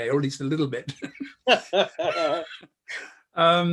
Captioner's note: chuckles